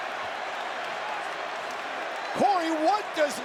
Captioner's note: crowd cheers